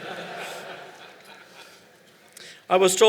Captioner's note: laughter